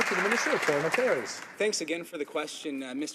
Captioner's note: some Applause